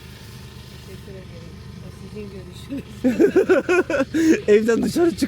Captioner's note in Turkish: kahkaha